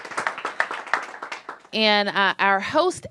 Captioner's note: applause